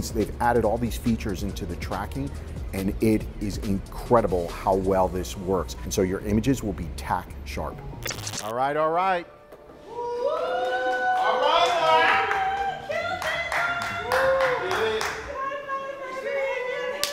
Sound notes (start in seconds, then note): 9.9 competitors cheering